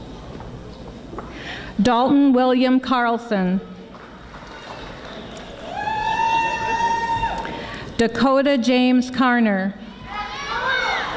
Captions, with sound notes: Dalton William Carlson. (audience applauding) Dakota James Carner.